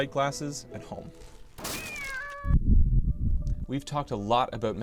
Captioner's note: crashing, cat yowling sound effect